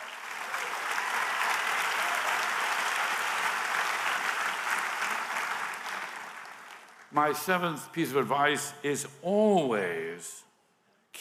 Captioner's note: applause